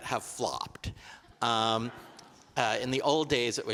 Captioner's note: audience laughing